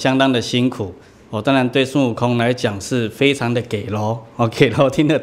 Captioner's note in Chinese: 台語